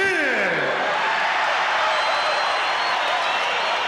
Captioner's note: crowd cheers